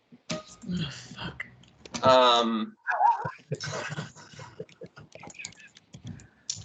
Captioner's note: laughing